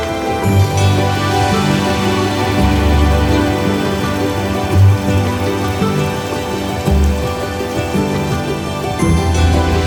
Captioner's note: sound of flowing water